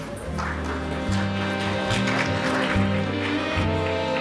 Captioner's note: audience applauding